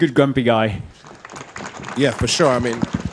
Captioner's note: audience clapping